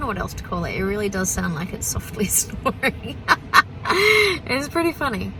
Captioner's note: laughs